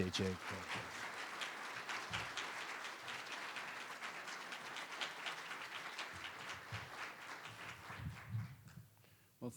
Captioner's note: applause